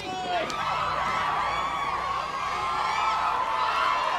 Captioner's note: crowd cheers